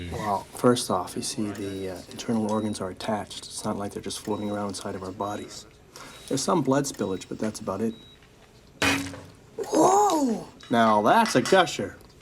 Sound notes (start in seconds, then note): 8.7 blood squirting